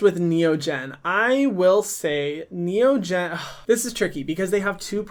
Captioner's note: sighs